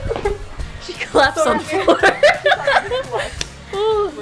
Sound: laughing; laughing

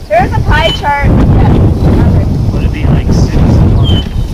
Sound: voiceover

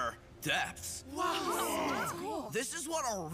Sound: exclaiming in awe

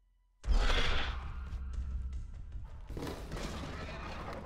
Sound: dinosaur growls

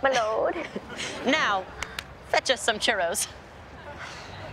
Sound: clapping

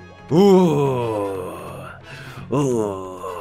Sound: more creepy noises please stop

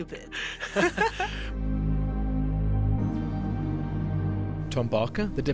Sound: voiceover

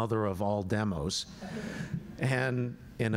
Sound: laughter

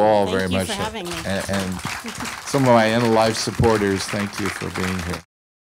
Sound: applause

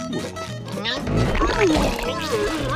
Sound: grunting

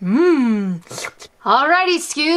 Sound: slurping

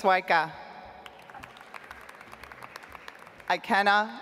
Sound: audience applauds

